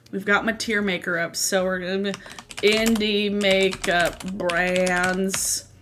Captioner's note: typing